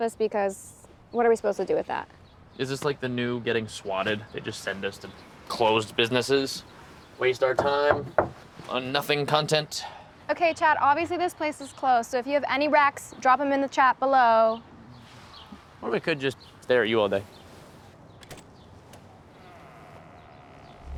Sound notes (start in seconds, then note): 18.2 door latch clicks; 18.8 door creaks open